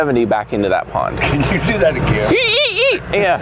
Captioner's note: laughs